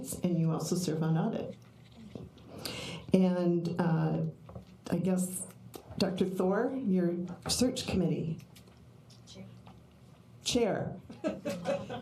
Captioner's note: laughter